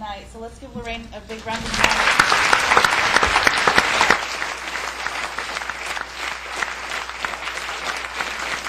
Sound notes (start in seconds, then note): 2.8 applause